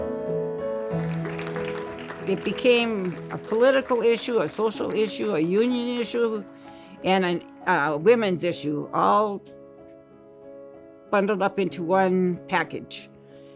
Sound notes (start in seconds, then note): 0.7 audience applauding